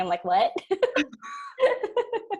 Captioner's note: laughs